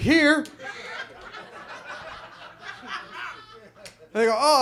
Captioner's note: audience laughs